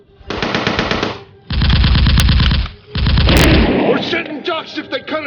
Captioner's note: gunfire rattling